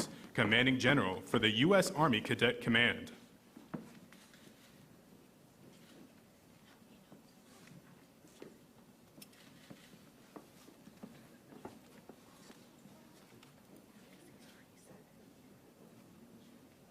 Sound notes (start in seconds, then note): 6.2 cameras clicking